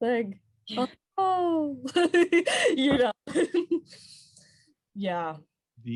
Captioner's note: laughs